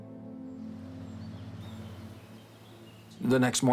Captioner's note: birds twittering